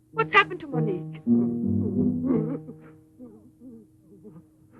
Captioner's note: sobbing